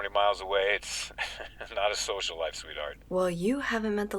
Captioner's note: chuckles